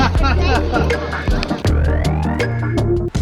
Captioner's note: laughs